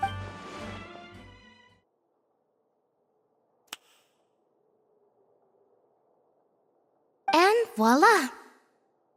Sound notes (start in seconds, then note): 3.6 click